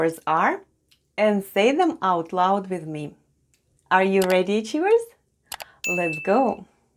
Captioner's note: click & ding sounds